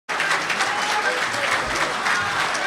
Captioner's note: clapping and cheering